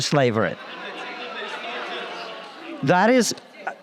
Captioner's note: crowd hollers